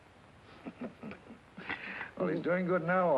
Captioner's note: Red chuckling